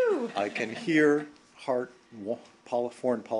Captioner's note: laughter